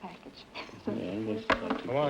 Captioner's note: whispering